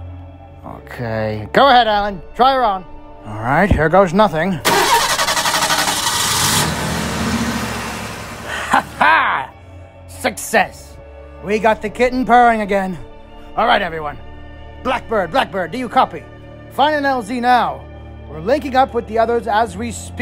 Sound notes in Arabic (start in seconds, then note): 4.6 المحرك يبدأ